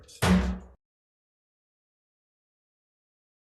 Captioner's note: gavel bangs; silence